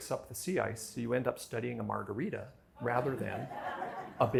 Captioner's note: laughter